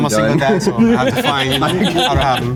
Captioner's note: group laughing